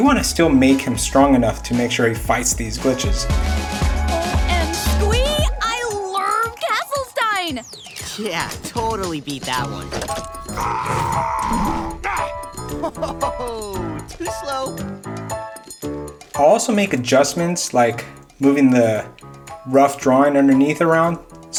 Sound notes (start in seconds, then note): 3.8 upbeat electronic music; 10.4 growling; 15.5 upbeat instrumental music